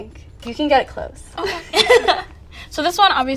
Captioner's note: ladies laughing